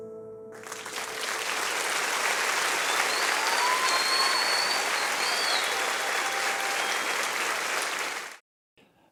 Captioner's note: applause